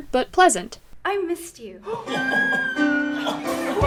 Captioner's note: comedic squeeing